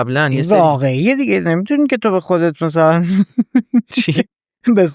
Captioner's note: laughs